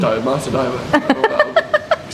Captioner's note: laughs